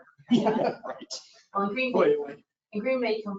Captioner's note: people laugh